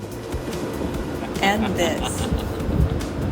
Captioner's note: laughing